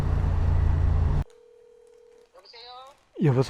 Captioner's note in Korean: 수화음